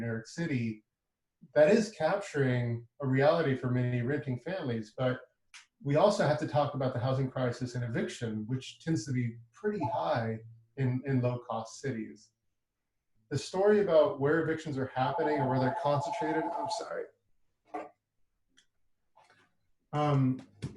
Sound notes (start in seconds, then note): 15.0 phone ringing